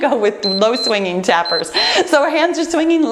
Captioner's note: timer beeps